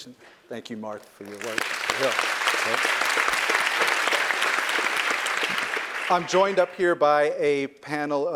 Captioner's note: applause